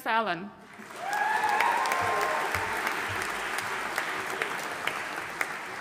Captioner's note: audience cheering and applauding